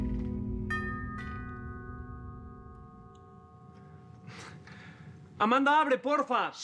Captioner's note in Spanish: Timbre de la puerta